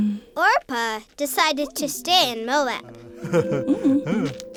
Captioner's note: voiceover